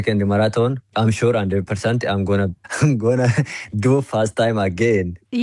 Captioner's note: laughs